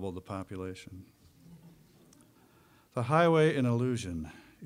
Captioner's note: audience chuckling